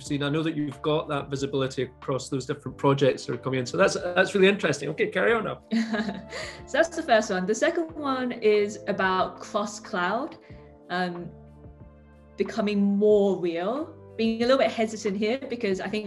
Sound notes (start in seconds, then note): 5.9 laughing